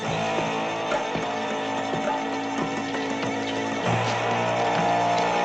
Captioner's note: تصفيق